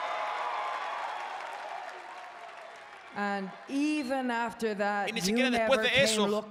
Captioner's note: applause